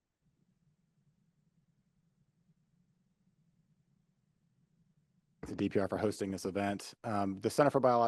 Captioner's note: audio Missing